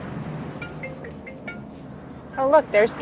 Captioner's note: phone ringing